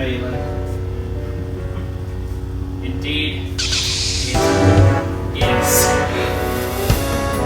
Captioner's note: chuckles